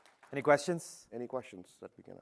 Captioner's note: applause